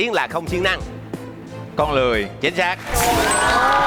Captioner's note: clapping